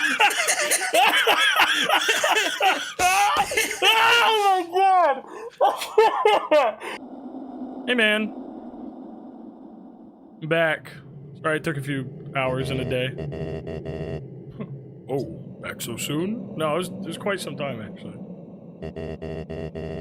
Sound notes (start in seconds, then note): 0.0 laughing; 6.2 laughs